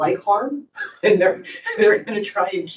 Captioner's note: and host laughing